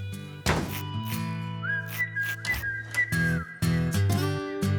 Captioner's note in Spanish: Portazo